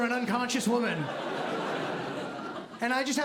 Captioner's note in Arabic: ضحك